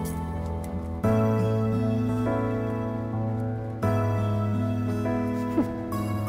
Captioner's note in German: arghhh